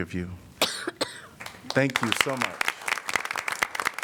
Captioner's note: applause